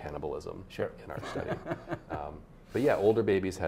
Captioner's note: laughs